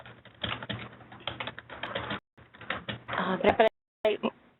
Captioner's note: keyboard clicking